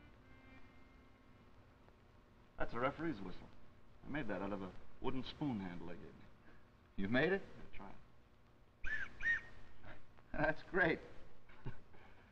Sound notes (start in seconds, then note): 8.8 tweet, tweet; 11.5 Dover snickers